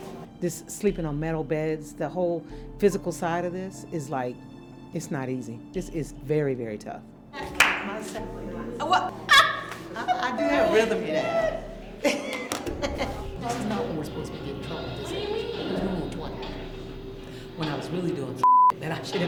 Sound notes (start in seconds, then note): 9.3 chuckling